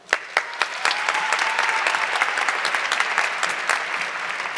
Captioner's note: audience clapping